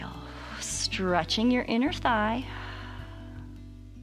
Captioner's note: exhales